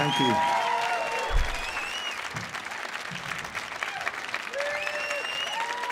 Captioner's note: audience applauding and cheering